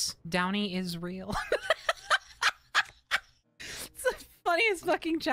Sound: laughing

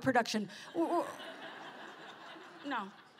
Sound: laughter

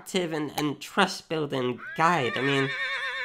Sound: horse neighs

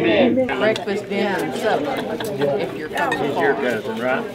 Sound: crowd chatter

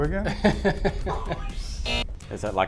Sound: laughing; buzzer

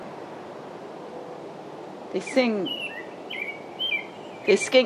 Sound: robin sings

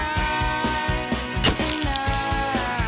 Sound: camera shutter

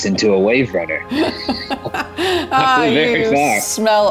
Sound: laughing

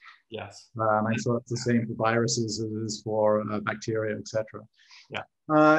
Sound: faintly speaking

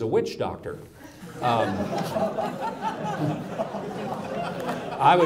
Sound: audience laughs

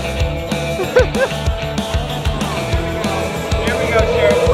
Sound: laughter

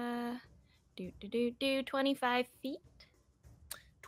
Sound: hums

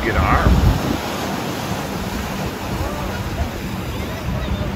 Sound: waves rushing

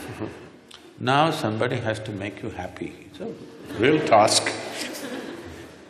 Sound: laughter

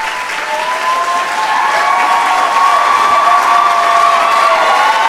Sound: audience clapping

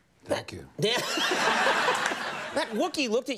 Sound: audience laughing

